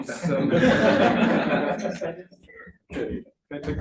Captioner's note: laughing